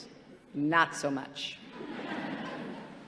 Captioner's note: laughter